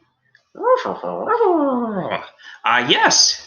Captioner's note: dog noises